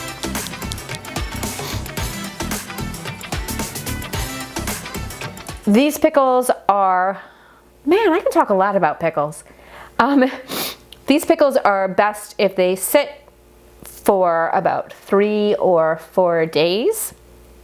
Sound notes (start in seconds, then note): 0.0 upbeat music; 10.4 blows nose